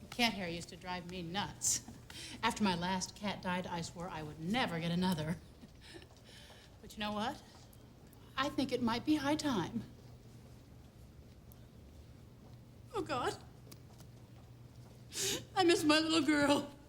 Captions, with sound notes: Cat hair used to drive me nuts. After my last cat died, I swore I would never get another. (laughs) But you know what? I think it might be high time. Oh god. (crying) I miss my little girl.